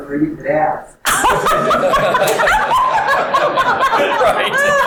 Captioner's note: all laughing